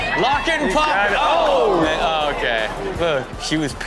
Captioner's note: audience gasps